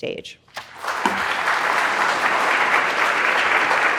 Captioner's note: audience applauding